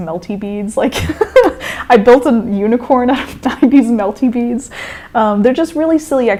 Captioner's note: laughter